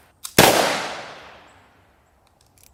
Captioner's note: gun shooting